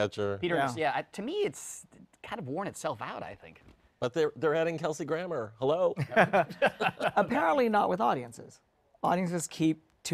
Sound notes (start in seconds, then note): 6.0 laughter